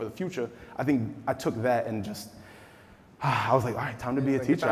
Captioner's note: sigh